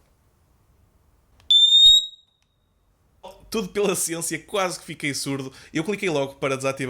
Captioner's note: alarm